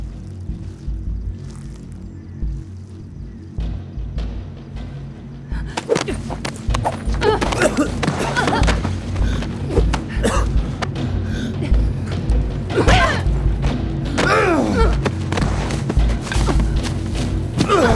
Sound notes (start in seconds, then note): 5.6 all grunting; 5.9 suspenseful music continues; 14.3 Evelyn groans; 14.3 thug grunts; 17.7 Evelyn grunts